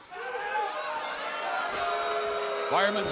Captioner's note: fans chanting